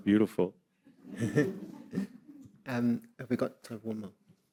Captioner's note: everyone chuckling